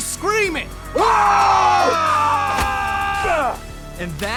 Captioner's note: yelling